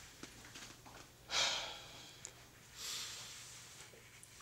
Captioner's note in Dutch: zwaar uitademend